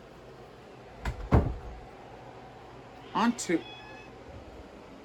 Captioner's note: Caprice meows